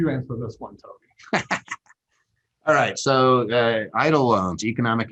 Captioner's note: laughs